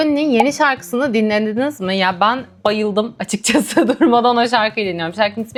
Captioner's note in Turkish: kahkaha